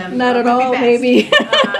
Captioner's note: laughs